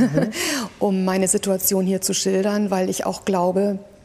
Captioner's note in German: lacht